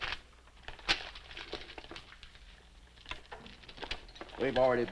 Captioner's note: paper snapping; paper crinkling